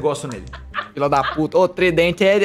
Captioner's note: laughter